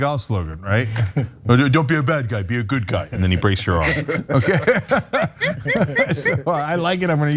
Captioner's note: laugh